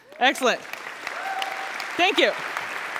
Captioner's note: applause